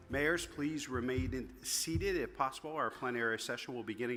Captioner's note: microphone rattling